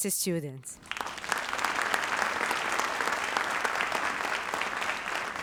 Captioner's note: audience applauds